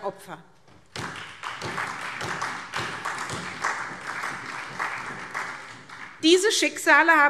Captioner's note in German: Beifall SPD